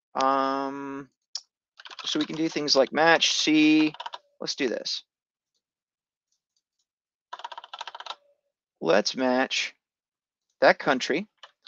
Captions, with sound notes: So we can do things like match C. Let's do this. (keyboard clicking) Let's match that country